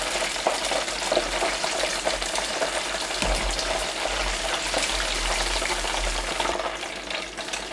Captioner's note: oil sizzling